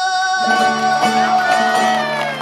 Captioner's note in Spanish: gritos y aplausos